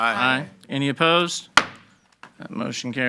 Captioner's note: gavel banging